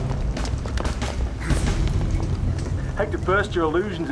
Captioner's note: groaning